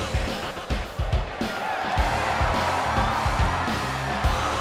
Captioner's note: crowd cheers